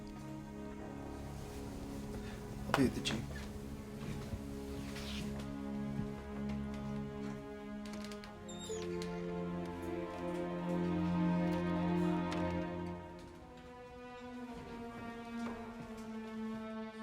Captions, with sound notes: - I'll be at the Jeep. (door creaks)